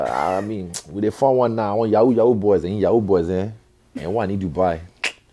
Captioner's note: foreign language